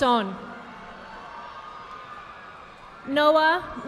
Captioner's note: audience applauding